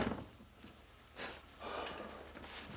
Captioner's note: exhales